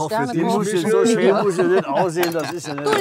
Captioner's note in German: lachen